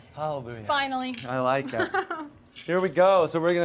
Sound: laughs

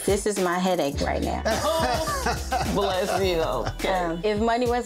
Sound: both laughing

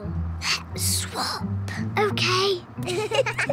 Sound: whispering; both giggle

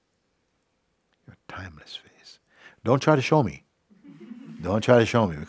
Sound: laughter

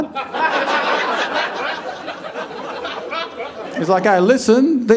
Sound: audience laughing

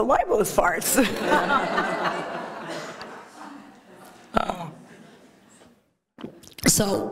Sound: laughter

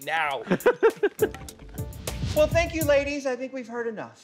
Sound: laughing

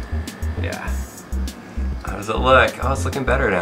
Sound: voiceover

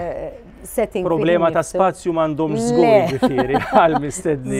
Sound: laughs

